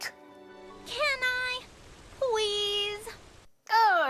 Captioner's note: shrilly